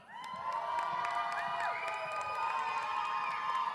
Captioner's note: audience cheers